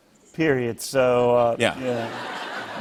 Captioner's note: laughter